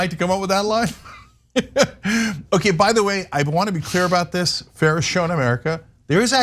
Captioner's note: laugh